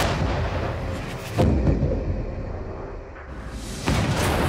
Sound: explosion booms

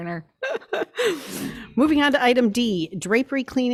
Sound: laughs

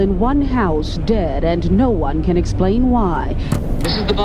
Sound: television static hissing

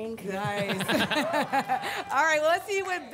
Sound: laughter

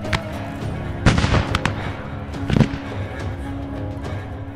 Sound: gun firing; upbeat music

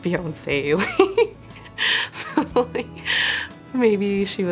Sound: giggling

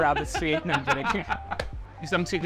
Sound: laughs

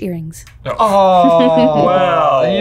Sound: laughing

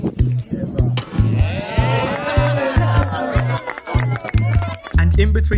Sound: cheering

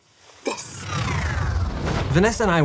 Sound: scene whooshes

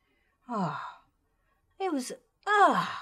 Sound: sighs

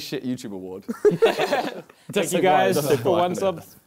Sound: laughter

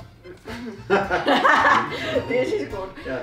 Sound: laughter

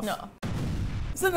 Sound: kaboom

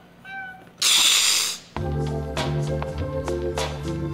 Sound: hissing

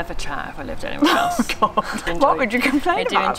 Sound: laughs

